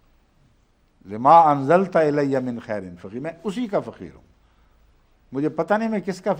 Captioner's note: Arabic